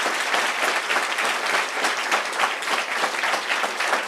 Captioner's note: applause